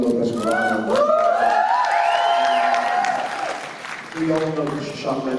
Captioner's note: applause